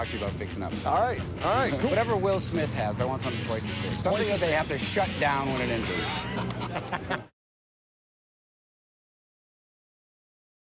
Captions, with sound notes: All right, all right. Whatever Will Smith has, I want something twice as big-- something that they have to shut down when it enters. [laughter]